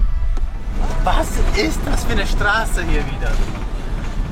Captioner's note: laughing